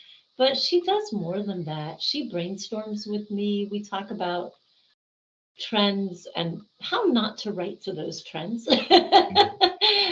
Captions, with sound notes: But she does more than that. She brainstorms with me. We talk about trends and how not to write to those trends, [LAUGHING]